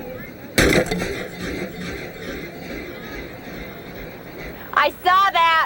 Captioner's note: wood cracks; dramatic ambient notes